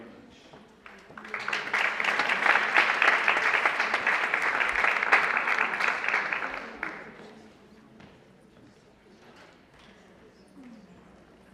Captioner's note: applause